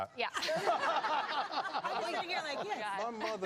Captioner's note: laughter